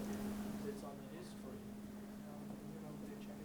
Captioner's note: speaking faintly